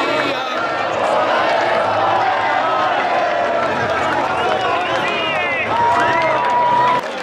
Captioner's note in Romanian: Aplauze